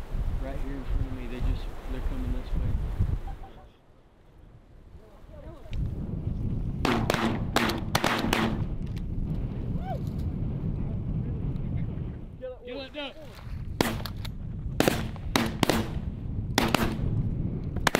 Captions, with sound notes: Right here in front of me, they just... They're coming this way. Kill’em, kill’em, kill’em! (Gunshots) Whoo!